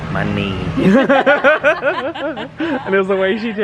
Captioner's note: both laughing